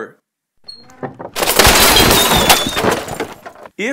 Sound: crashing

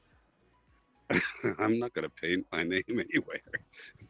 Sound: laugh

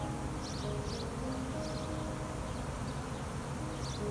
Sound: bees buzzing

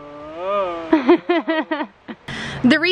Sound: laughing

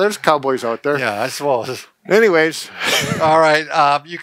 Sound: laughs

